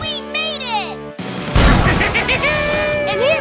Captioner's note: laughing